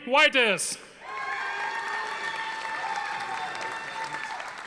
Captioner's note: audience applauding